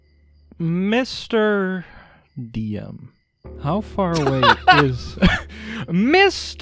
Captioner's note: laughs